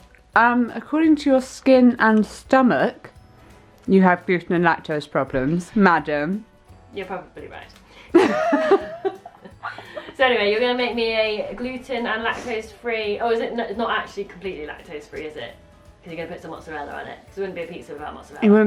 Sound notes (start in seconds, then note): 8.1 both laughing